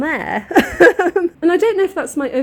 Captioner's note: laughing